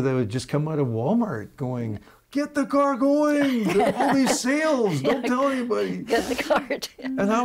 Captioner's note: laughing